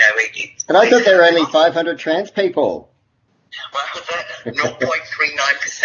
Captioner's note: laughs